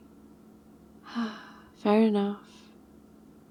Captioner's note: sighs